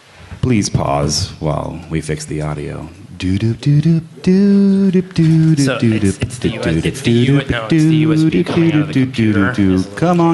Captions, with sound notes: fix the audio. Doo, doo, doo, doo, doo, doo, come on guy, we look like asshats. [Laughter] >>